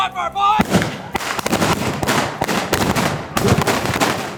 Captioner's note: gun banging